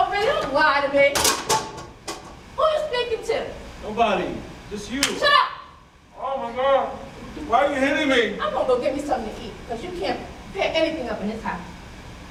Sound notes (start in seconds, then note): 1.2 plate drops on floor